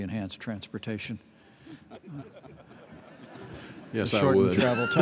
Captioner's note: laughter